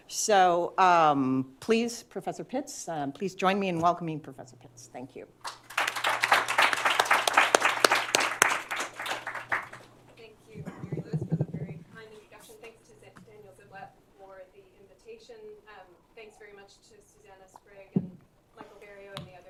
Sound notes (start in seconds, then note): 5.4 applause